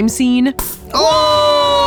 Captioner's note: air bursts